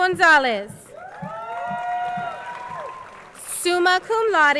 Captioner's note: crowd cheering